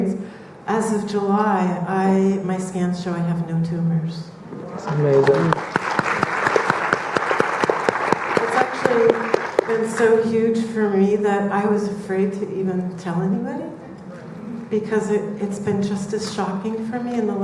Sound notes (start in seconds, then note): 4.8 audience clapping